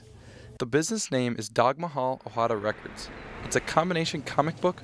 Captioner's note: voiceover